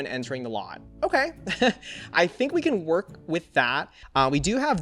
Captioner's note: laughs